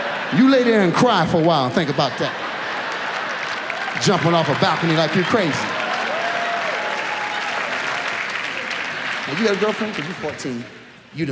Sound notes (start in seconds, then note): 0.0 audience laughs; 5.9 audience applauds